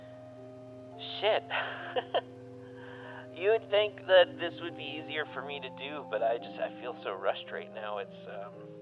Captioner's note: chuckles